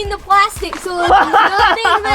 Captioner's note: laughs